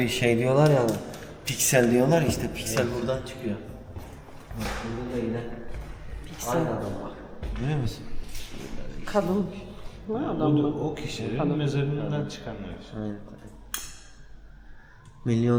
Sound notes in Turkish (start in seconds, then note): 5.4 homurdanır